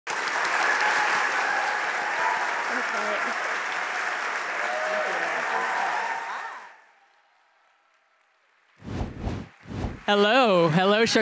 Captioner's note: applause